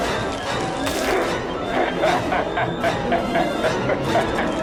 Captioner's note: cackling; distorted voice